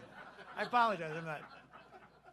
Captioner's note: laughter